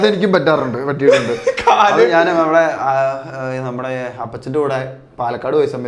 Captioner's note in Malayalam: പൊട്ടിച്ചിരി